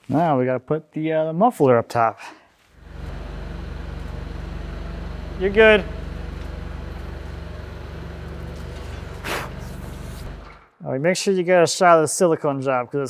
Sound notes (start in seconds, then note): 2.8 engine whirring; 8.6 blows air; 9.3 engine whirring